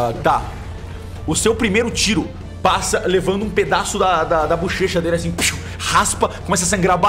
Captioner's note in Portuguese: <i>pshiu</i>